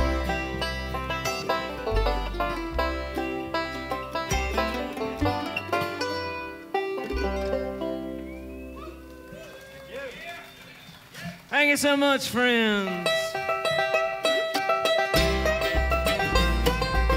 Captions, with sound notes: (clapping) - Thank you so much, friends. (lively bluegrass music)